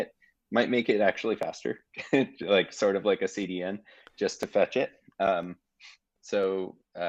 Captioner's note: chuckling